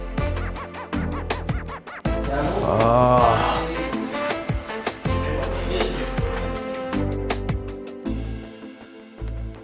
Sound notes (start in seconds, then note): 2.3 groans; 2.9 smooth music continues